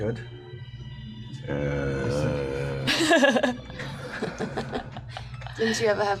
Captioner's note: grumbles